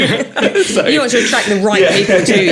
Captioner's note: laughing